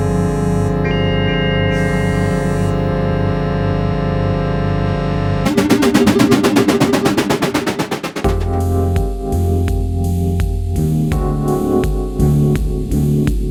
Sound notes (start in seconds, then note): 5.5 electronic whirring; 8.3 relaxed keyboard music